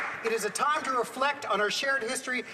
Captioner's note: applause